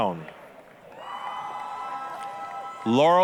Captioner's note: applause, cheering